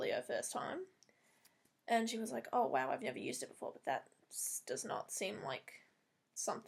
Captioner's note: Owen Wilson impersonation